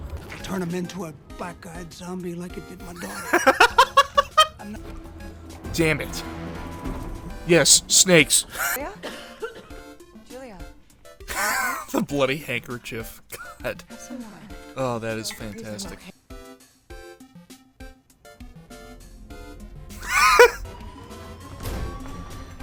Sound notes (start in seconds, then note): 2.8 hysterical laughter; 8.4 wheeze; 11.3 wheeze